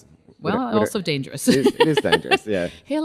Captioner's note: laughs